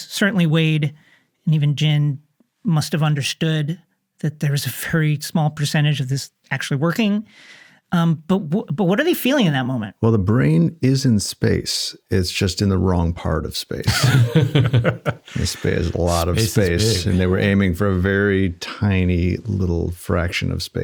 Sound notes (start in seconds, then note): 13.8 interviewees laughing